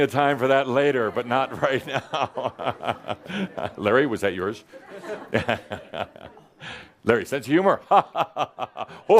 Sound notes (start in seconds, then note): 0.0 laughter; 2.6 Adamus chuckles